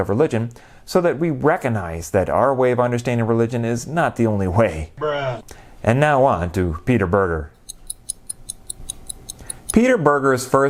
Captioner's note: ticking